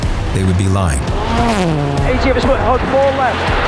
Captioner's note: car engine revving